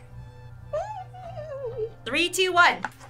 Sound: squeals

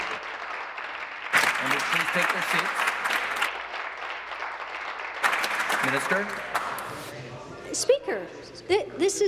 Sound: applause

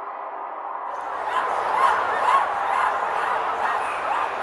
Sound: crowd barking sounds

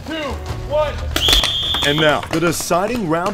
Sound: whistle blowing

